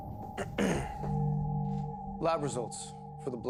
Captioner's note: Bailey clears Throat